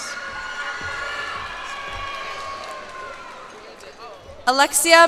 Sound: cheers and applause

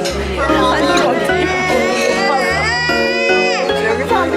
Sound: laughing

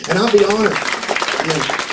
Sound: applause

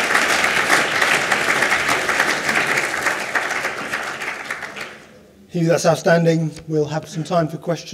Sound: applause

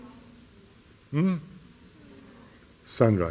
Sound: background chatter

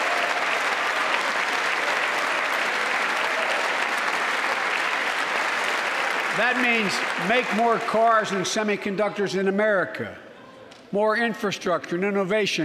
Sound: applause

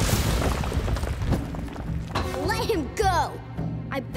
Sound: none

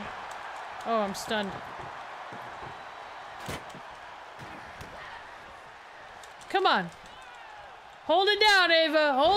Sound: applause

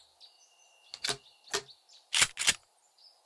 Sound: GTA Shotgun Reload

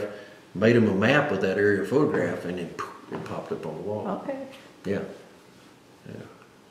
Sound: poof

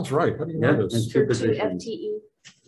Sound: group chattering

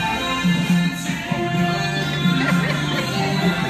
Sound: laughing

